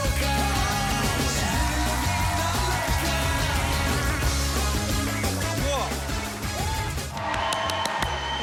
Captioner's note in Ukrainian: оплески